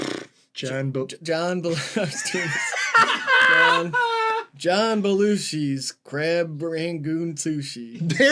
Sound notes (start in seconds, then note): 1.8 loud laugh; 1.8 laughing; 1.8 laughs